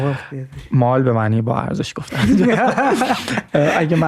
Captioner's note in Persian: خنده